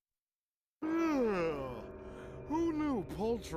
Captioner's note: yawning